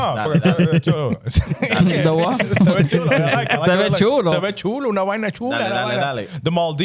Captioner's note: laughing; speaking Foreign Language